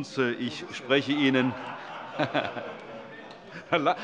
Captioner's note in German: Heiterkeit und Zurufe